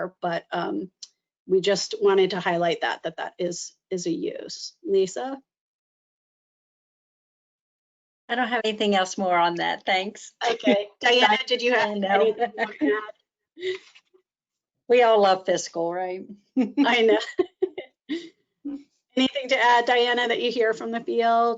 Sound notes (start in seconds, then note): 13.8 laughs; 16.6 chuckles